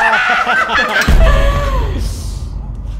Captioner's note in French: haaa